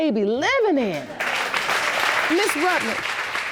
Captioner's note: applause